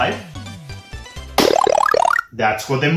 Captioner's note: CLAP plus Mega Mushroom sound effect